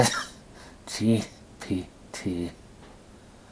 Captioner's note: coughing